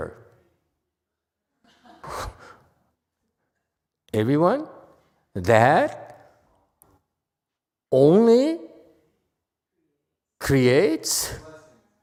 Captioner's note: laughs